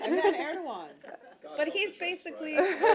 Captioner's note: laughter